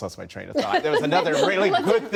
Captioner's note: laughter